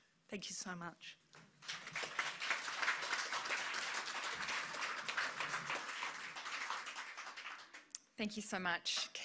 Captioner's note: applause